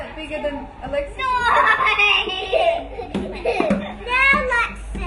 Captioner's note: laughter